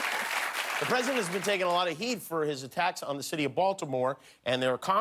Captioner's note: cheers and applause